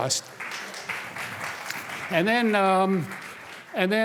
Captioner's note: applause